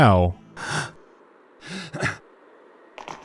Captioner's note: huff-puff; clonk